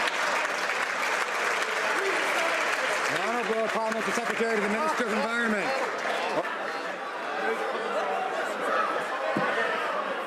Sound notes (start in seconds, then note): 2.1 some Applause